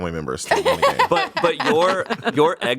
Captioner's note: everyone laughs